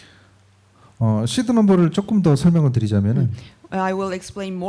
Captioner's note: speaking korean